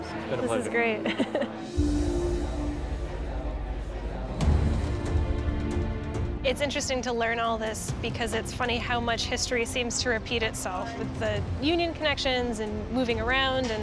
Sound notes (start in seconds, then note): 1.0 chuckles